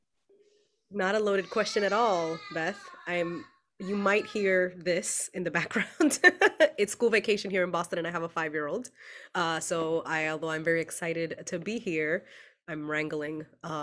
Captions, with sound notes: - Not a loaded question at all, Beth. (child yelling) You might hear this in the background. It's school vacation here in Boston and I have a five year old. So, although I am very excited to be here, I am wrangling